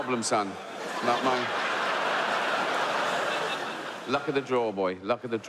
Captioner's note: audience laughs